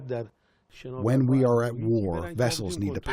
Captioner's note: through translator